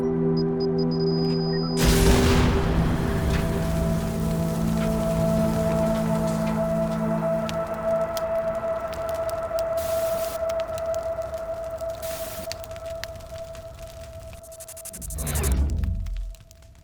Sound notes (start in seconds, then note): 0.3 machine beeping; 1.8 tremendous explosion; 10.0 digital fire crackles; 14.3 digital buzzing glitches